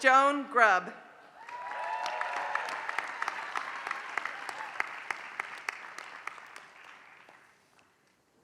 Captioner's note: applause